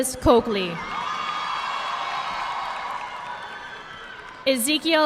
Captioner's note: audience clapping